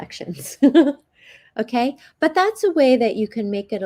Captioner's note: chuckles